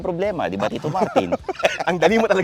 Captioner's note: laughs